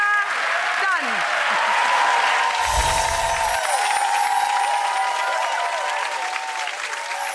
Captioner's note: audience cheering